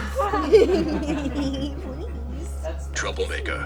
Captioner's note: group giggling